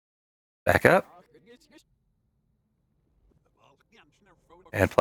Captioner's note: reversed audio